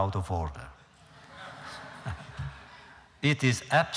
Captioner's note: laughter